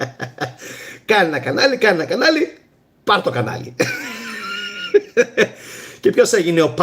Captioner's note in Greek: γέλια